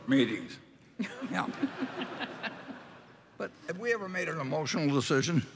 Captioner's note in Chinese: Laughter; 笑聲